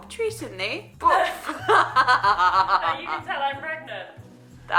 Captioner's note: laughing